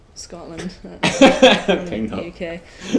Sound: laughs

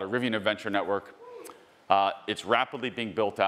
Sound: attendee cheering

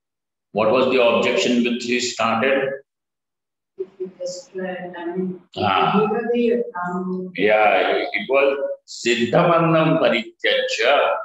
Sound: sanskrit

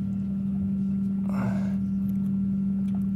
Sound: big exhale

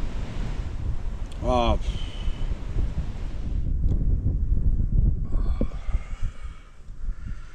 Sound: sighs

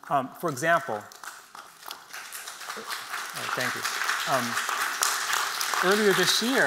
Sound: applause

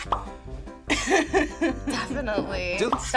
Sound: React laughs

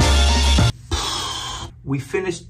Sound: sighing

